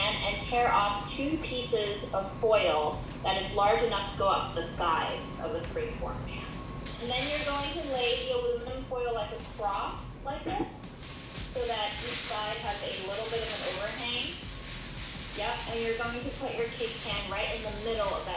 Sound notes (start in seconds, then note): 15.0 foil rustling